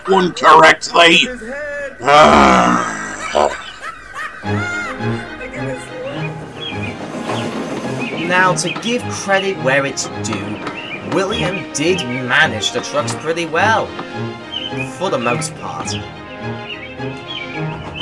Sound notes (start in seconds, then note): 1.0 groan